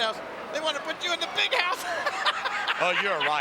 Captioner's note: laughing